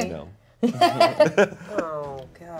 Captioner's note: everyone laughs